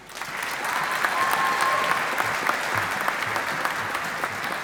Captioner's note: audience applauding